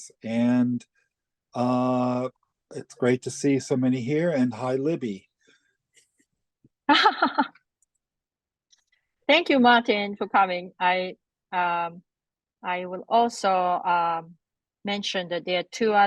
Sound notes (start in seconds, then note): 6.9 laughs